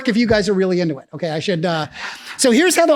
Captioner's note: laughs